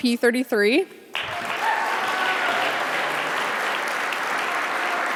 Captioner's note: audience applauding